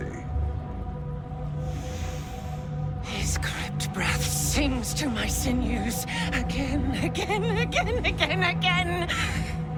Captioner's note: inhales